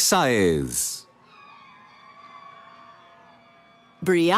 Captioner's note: cheering